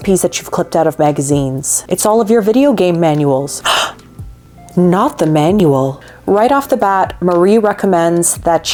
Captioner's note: gasps